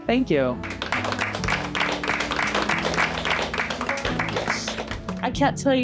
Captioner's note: clapping